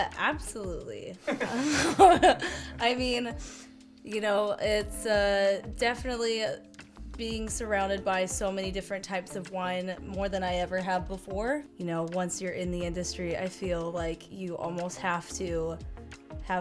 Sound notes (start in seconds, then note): 1.2 all laughing